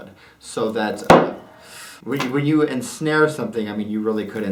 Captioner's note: thud